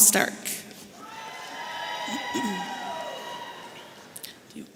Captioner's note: audience cheering